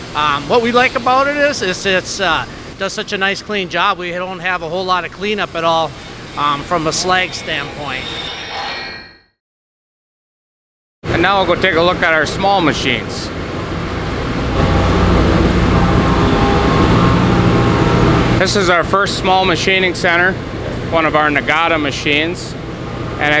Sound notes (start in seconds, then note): 8.7 pause; 13.2 machine whirring sound